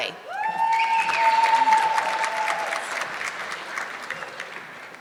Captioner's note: audience clapping